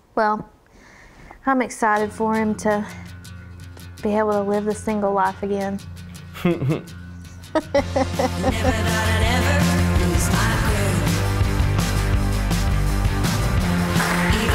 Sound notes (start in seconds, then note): 6.3 chuckles; 7.5 laughs